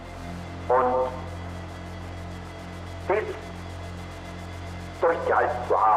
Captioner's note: Himmler continues speaking German